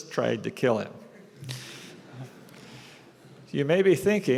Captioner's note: laughter